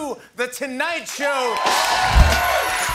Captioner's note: cheering and applause